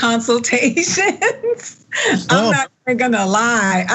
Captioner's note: laugh